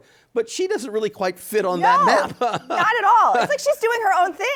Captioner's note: chuckles